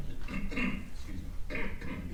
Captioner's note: coughs